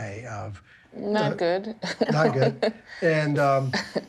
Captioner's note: laughs